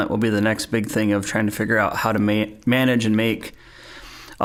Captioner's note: none